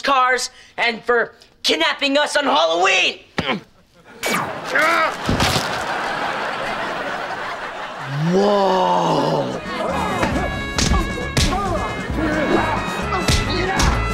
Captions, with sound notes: and for kidnapping us on Halloween! [groaning] Whoa! [grunting] Yah!